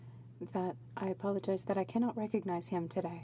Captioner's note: speaking French